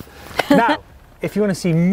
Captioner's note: laughter